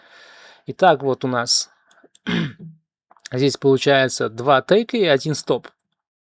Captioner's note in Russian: откашливается